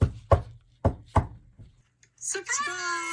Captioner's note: friends knocking